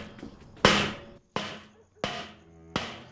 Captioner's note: bang continues